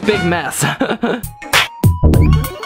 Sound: laughs; funky music

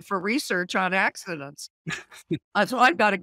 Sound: laughing

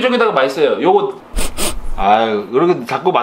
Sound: sniff Sniff

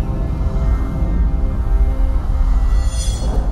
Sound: metallic shifting noise

